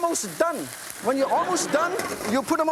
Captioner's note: audience laughs